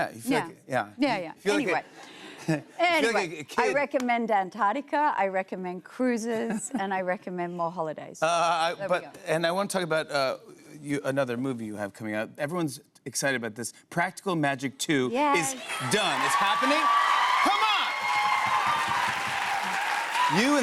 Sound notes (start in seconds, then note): 15.3 cheers and applause; 18.5 cheers and applause continue